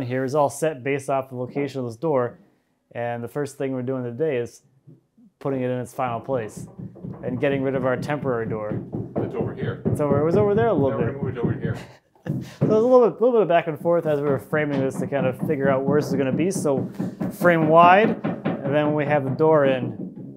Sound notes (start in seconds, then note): 9.6 hammers pounding; 12.2 laughing